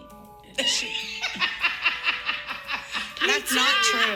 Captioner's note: laughing